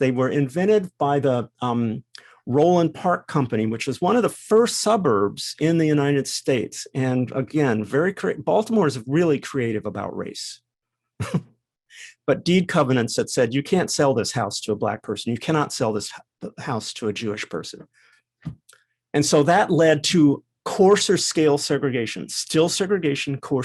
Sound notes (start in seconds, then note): 11.2 laugh